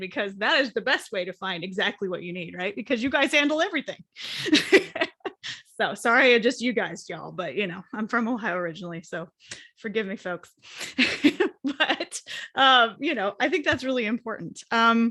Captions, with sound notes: because that is the best way to find exactly what you need, right? Because you guys handle everything. (chuckles) So, sorry I just, you guysed y'all, but you know, I'm from Ohio originally so forgive me folks, but I think that's really important.